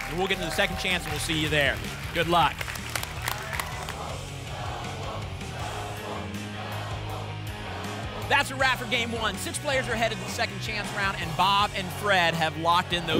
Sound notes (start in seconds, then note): 2.4 applause and cheering; 3.5 audience chanting "double!"